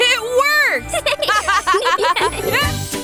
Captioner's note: laughter